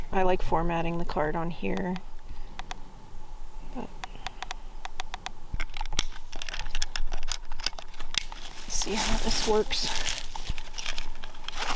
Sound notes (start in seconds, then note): 3.3 button clicking; 5.6 case clicking